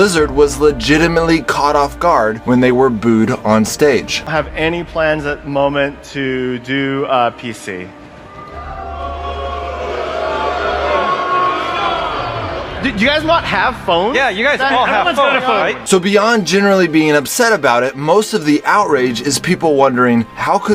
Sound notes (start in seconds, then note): 8.2 booing